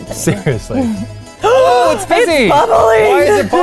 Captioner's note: gasping